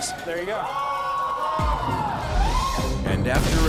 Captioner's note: cheering